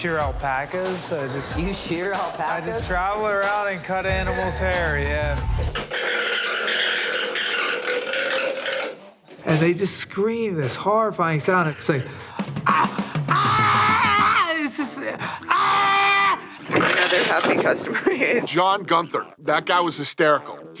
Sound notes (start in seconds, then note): 3.4 alpaca shrieking; 13.2 screaming; 14.5 Alpaca snorts